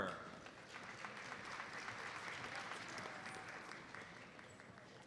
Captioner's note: audience applauds